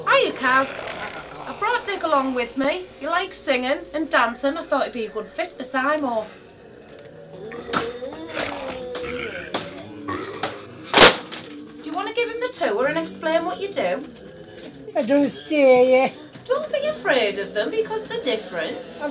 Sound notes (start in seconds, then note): 8.1 zombies murmur and growl